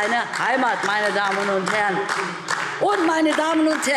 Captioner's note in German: Beifall DIE LINKE